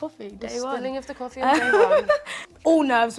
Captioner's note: laughs